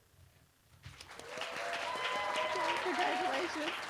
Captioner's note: cheering